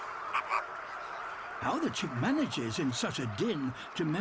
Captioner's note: croaks